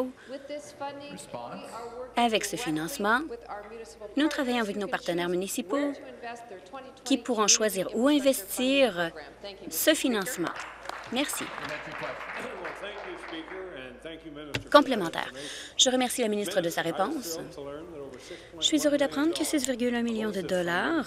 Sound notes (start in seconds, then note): 13.7 applause